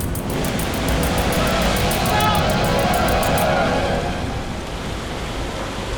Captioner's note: perilous music; splashing